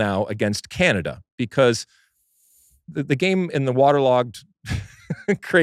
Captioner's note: laughing